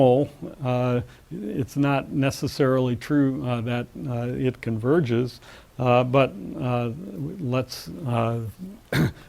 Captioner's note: cough